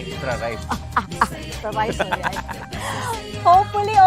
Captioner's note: chuckles; laughs